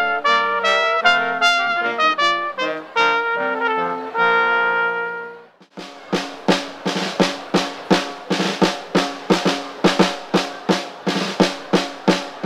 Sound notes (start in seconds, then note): 5.6 rhythmic music; 5.7 people chatter